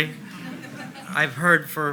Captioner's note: audience laughs